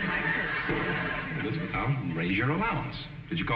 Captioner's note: audience laughing